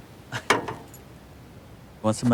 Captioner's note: Lance chuckling; cane tapping